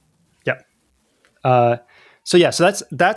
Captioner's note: uh